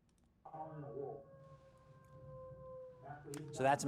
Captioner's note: person making howling sounds